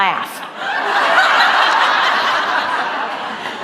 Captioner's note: laughter